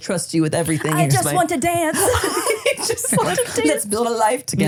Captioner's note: laughs; laughing